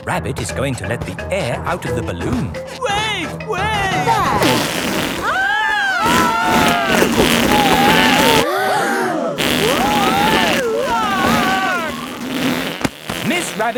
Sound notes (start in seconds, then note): 5.2 both screaming; 8.9 crowd gasps; 10.6 screaming